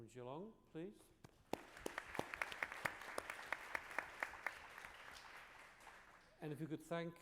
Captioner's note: applause